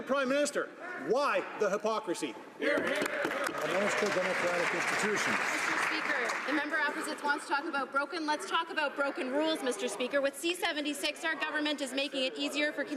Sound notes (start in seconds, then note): 5.7 some Applause